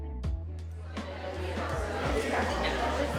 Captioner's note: customers chattering